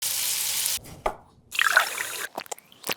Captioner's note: pan sizzles; knife chops; liquid gurgles